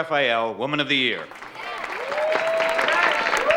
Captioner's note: audience cheering and applauding